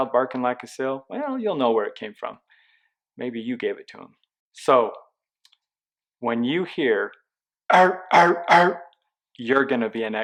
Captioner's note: seal bark sound